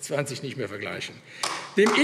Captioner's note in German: Beifall AfD